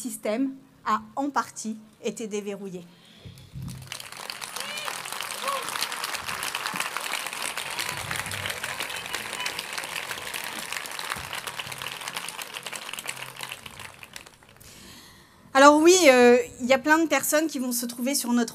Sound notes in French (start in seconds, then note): 3.5 Applaudissements